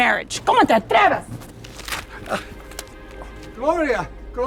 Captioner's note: speaking spanish